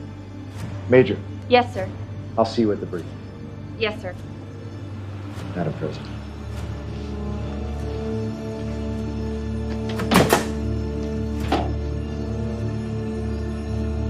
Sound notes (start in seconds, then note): 7.5 upbeat music; 9.5 door opening